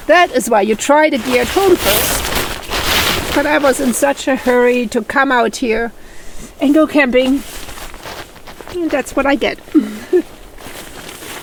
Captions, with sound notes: THAT is why you try the gear at home first, but I was in such a hurry to come out here ... and go camping. That's what I get! [laughs]